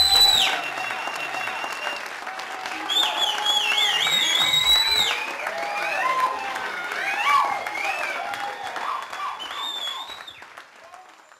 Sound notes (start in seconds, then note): 3.6 audience continues to cheer